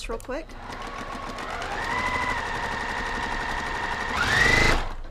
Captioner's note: sewing machine whirring